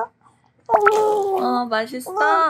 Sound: sound of foaming in the mouth

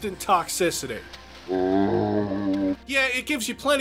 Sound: zombie groan

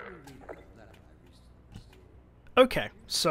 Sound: can bounces wildly across the room

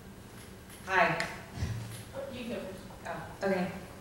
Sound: voiceover

